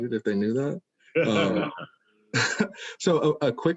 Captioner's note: laughing